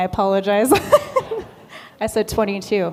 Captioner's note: laughter